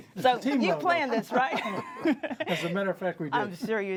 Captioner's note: laughs